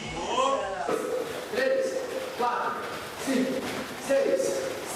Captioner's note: counting in Portuguese